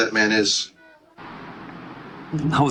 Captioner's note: noisy city